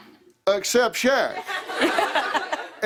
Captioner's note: laughter